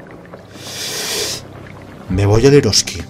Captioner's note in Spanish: inhala épicamente